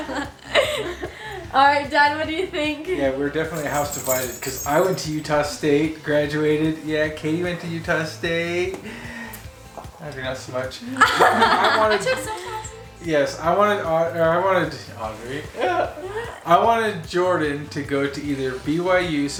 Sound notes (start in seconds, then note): 0.0 all laughing; 10.8 laughing; 15.2 laughs